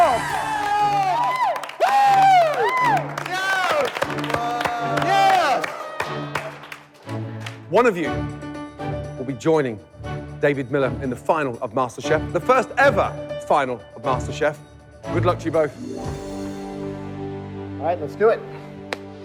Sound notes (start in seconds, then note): 0.0 cheers and applause